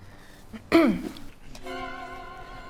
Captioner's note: clears throat